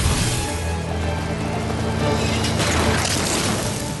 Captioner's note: engine hum